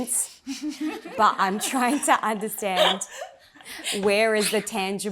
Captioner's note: laughter